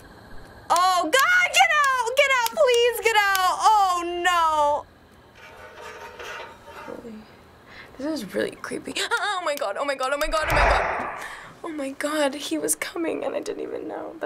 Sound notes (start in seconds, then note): 5.3 metallic scraping; 10.4 ominous whoosh